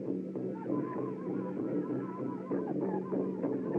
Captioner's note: chanting Continues